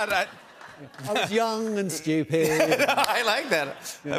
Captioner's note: laughs